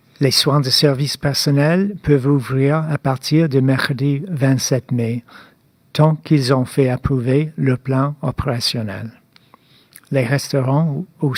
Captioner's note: speaking French